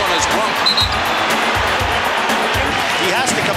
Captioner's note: whistle blows